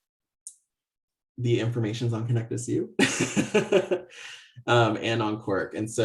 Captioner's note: laughs